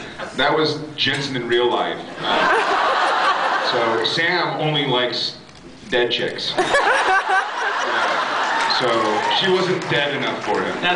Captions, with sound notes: That was Jensen in real life. [laughs] So... Sam only likes dead chicks. [laughs] Yeah... so... she wasn’t dead enough for him.